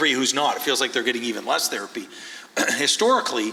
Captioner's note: clears throat